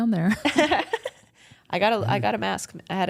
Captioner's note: Bayley chuckles